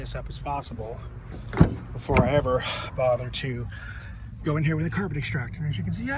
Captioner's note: door opens with a heavy clack on hinges